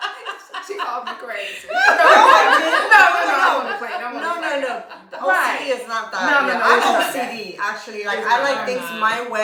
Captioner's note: laughter